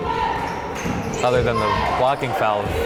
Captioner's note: crowd chanting defense